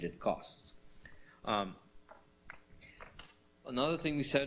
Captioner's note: pause